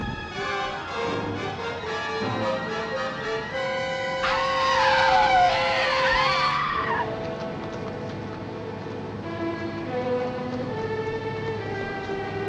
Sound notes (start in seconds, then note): 0.1 suspenseful music; 6.1 Sheila screaming; 9.2 somber music